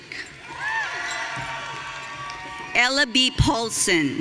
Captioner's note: audience cheering